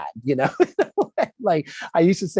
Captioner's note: laughs